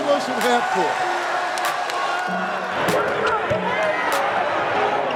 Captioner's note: crowd cheering